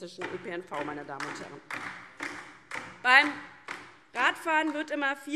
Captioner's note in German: Beifall DIE LINKE